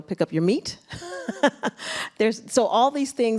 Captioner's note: laughs